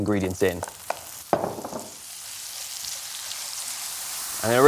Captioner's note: pan searing